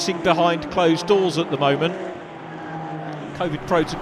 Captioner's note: car engines revving